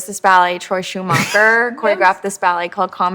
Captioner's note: chuckles